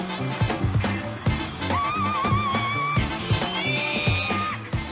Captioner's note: screams